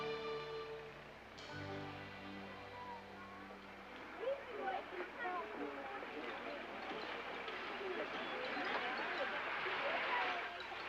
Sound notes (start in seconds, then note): 4.6 children chattering